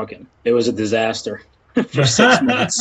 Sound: laughs

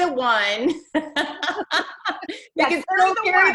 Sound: laughs

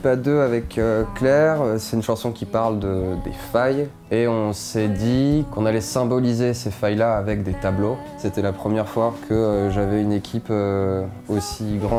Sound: speaking in french

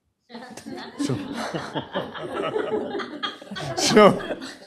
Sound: laughter

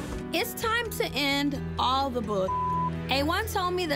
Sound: beep

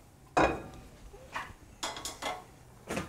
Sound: dishes clank

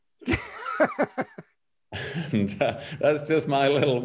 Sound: both laugh

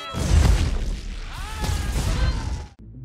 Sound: all yelling

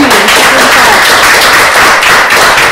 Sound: applause

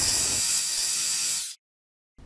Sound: drill whirring

